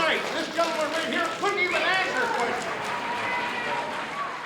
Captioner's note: audience cheers and applauds